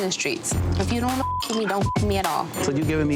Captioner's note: beep